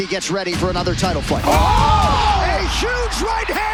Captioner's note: commentators exclaim